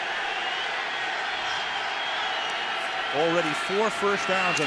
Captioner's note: crowd cheering